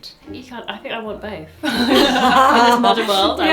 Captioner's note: pair laughs